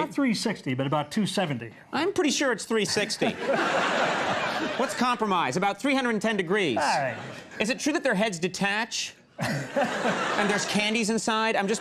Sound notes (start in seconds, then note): 2.9 audience laughs; 9.4 audience laughs